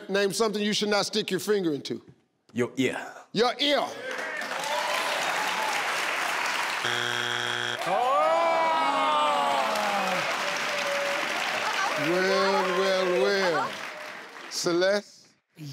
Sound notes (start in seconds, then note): 4.3 crowd cheering; 6.8 beeping